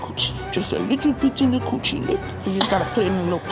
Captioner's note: laughing